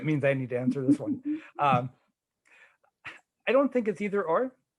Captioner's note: laughing